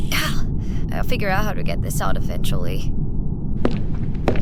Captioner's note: sigh